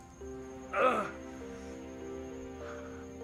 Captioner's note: Enrique grunts in pain